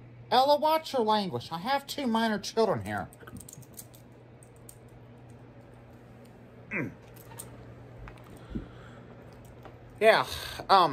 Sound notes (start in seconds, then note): 4.5 grunting